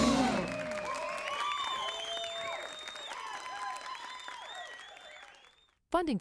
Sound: audience cheering; audience applauding

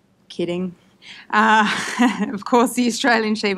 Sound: laughs

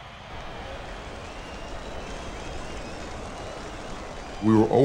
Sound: crowd cheering

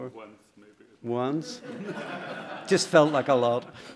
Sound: laughter

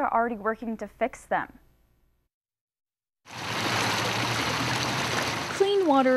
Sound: nats water running

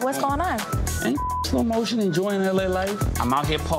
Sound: beep

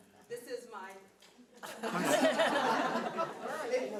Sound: audience laughing

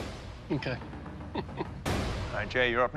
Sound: chuckles

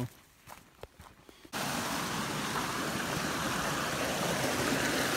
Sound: water rushes

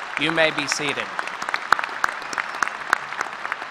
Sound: applause

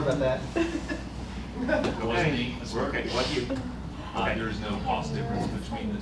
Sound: laughter

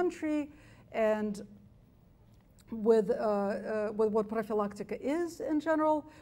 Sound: speaks foreign language

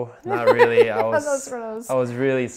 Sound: laughter drowns out speech

